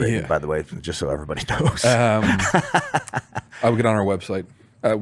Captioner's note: laughs